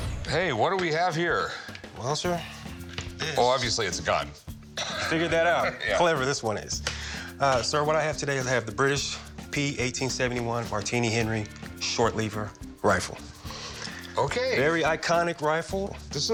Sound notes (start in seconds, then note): 4.7 laughs